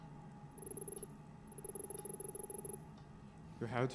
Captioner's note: text beeping